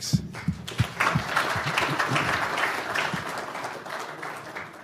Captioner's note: applause